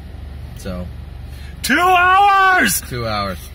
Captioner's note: shrieks in frustration